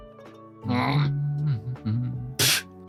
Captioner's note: angered grunt; humming